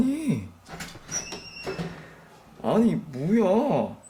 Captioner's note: the sound of opening the door